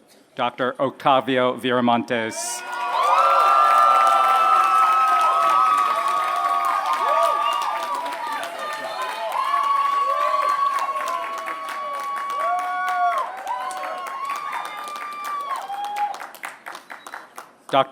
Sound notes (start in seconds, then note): 2.6 applause